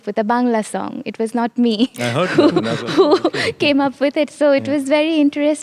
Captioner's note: chuckling